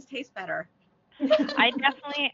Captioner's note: laughter